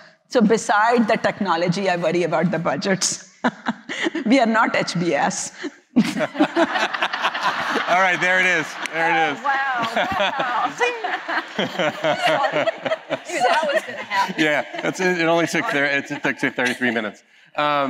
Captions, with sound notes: So beside the technology, I worry about the budgets. We are not HBS. [LAUGHTER] All right. There it is. There it is. Oh, wow. Wow. [LAUGHTER] Yeah. It only took 33 minutes.